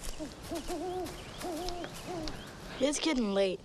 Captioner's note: owl hooting